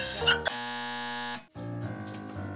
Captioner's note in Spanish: zumbador